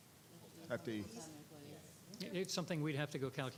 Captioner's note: group chatter